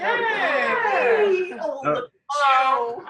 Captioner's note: cheers